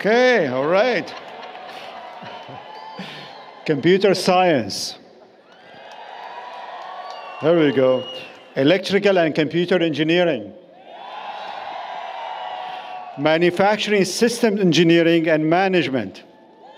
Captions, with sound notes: All right. [ Applause, Cheering ] Computer Science. [ Applause, Cheering ] There we go. Electrical and Computer Engineering. [ Applause, Cheering ] Manufacturing System Engineering and Management.